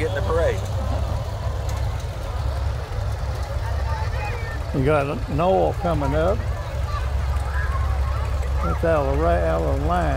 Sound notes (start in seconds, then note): 2.7 people chatter; 2.7 revving continues; 7.7 revving continues